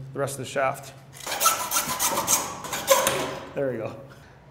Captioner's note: saw scraping